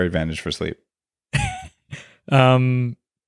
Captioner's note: chuckles